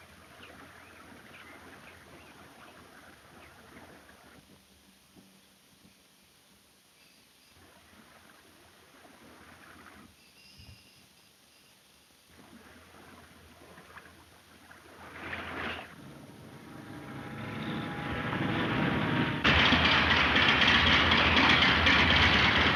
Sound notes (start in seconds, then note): 0.0 birds chirping; 15.8 engine puttering; 19.7 engine whirring